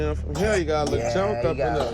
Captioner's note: coughing